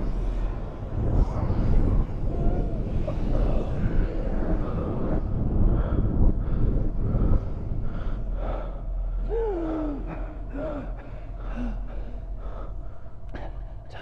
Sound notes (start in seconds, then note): 1.5 low, pulsating wind; 8.7 Karn gasps for air